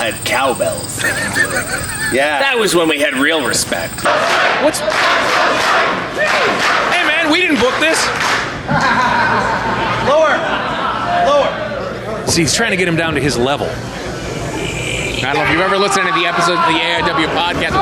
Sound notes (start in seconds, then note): 3.7 crowd chanting; 4.8 crowd clapping; 8.6 laughing; 15.8 yells in pain